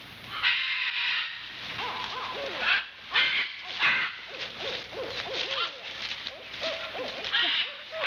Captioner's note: cawing